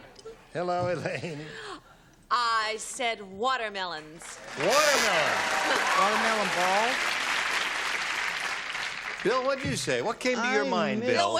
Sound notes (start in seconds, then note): 4.2 applause; 4.9 buzzer